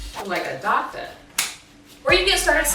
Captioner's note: snapping glove